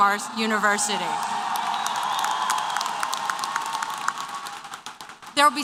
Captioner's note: applause & Cheers